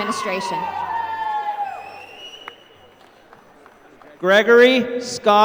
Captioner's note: applause